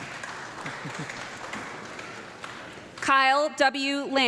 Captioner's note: audience clapping